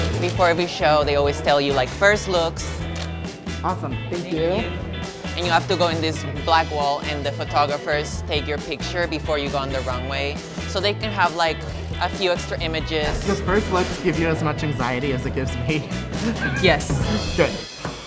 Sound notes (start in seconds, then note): 14.7 laughing